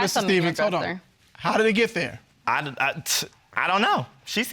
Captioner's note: stuttering